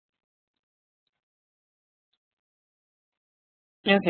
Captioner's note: silence